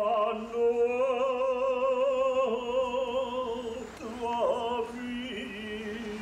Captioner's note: chanting